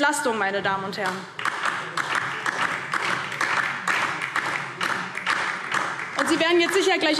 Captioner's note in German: Beifall DIE LINKE